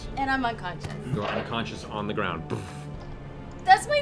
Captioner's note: thud